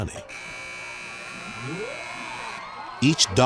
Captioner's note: buzzer